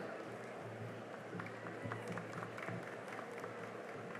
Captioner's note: cheering and applause